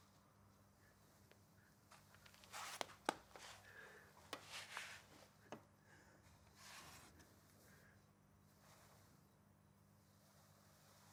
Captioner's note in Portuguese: silêncio